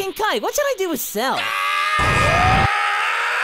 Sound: King Kai and friends screaming

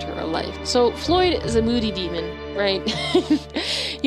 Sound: chuckles

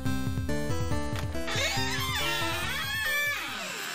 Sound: door squeaks

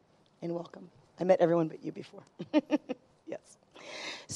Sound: laughs

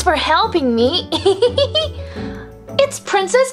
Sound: giggles

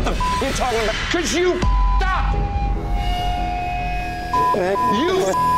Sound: beep; beep

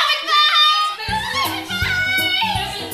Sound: none

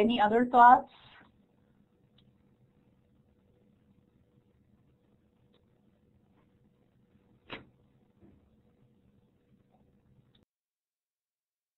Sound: silence

